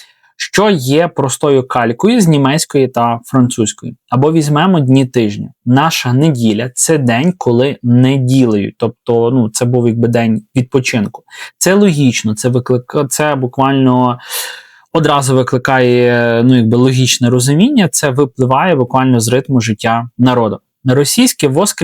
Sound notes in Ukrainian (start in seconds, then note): 14.2 сопіння